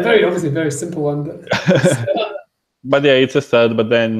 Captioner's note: laughs